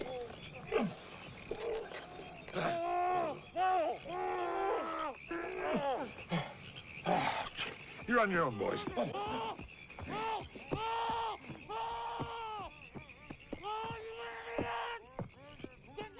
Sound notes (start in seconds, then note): 0.8 Hezekiah grunts; 7.0 Hezekiah sighs